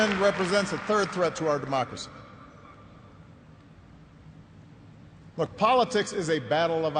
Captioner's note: applause